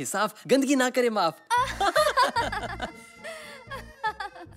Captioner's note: Laughs